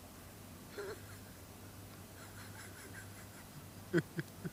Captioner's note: he chuckles